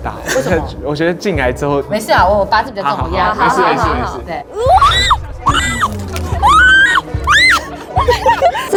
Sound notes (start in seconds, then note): 5.4 seagull sounds